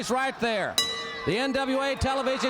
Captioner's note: bell ringing